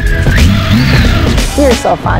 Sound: motor bike starting

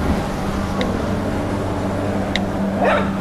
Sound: keyboard tap; bark

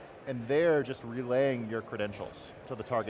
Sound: none

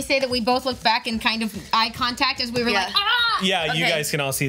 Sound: screams

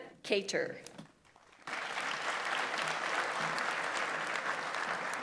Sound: audience applauds

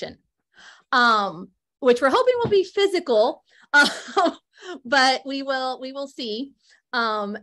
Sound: laughter

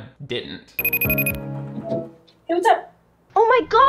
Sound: dramatic music; phone beeping

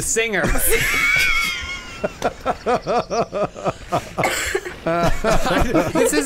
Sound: laughing

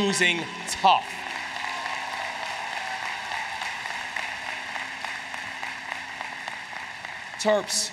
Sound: applause

